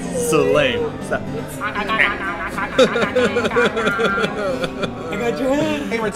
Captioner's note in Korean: 코-먹는 소리